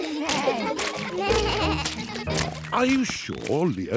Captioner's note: bleating